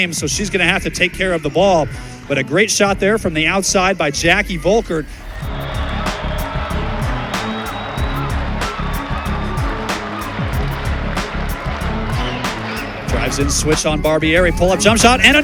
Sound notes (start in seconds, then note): 5.3 cheering; 7.9 dramatic music